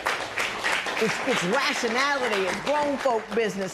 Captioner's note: applause